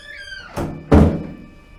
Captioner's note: bathroom door closes